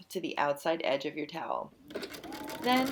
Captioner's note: machine sounds